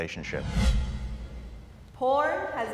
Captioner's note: dramatic whooshing